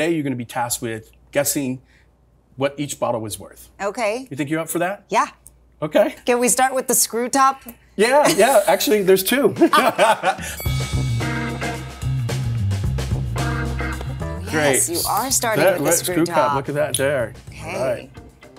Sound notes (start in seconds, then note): 9.5 both laugh; 10.5 loud ding; 12.1 upbeat music